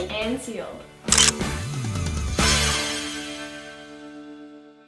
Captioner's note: camera clicking